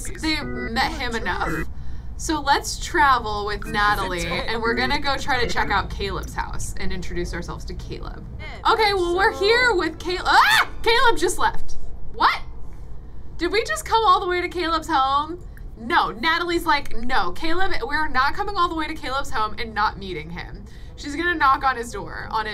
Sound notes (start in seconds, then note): 10.3 screams